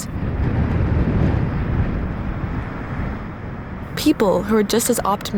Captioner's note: waves crashing